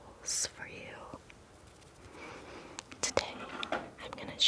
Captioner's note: fingers fluttering